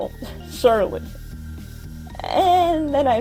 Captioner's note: scoffs